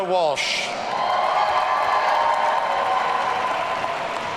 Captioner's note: audience cheering